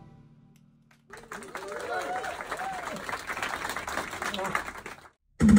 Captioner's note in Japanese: 拍手